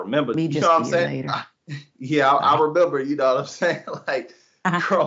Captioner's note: laugh